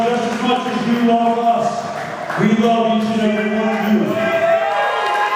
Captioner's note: crowd clapping; crowd cheering; crowd clapping